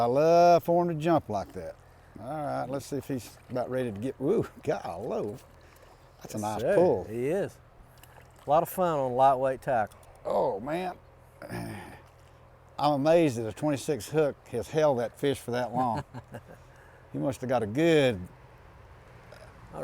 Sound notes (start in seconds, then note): 11.4 grunting